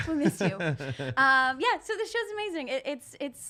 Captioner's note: laughing